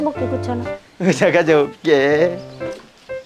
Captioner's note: giggles